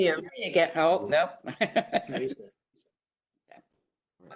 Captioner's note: laughs